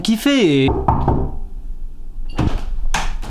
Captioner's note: door knocks